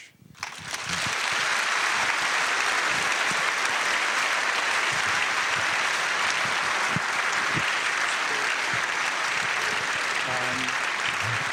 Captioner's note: applause